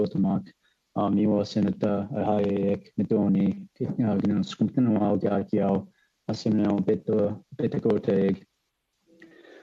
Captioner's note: speaking French